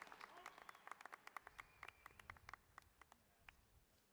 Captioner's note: cheers and applause